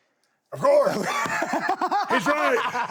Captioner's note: Sami laughs